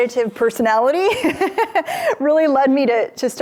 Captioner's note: laughing